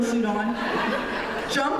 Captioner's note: laughter